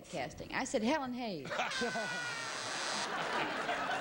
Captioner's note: buzzer